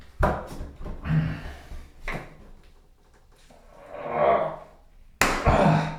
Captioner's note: manny strains and groans and hurts his fingers